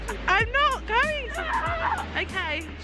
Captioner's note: yells